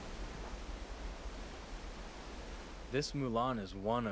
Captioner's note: waterfall